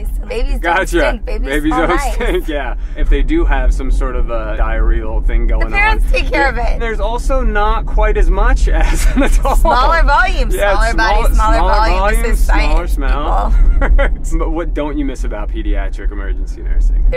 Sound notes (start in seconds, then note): 8.7 laughs; 13.5 laughing